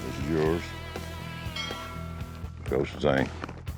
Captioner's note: bell rings